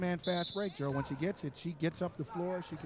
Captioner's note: referee whistling